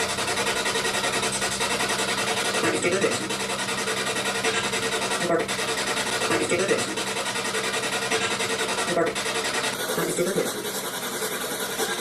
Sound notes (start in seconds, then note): 2.8 strange voice from SB-7; 5.3 strange voice from SB-7; 8.6 strange voice from SB-7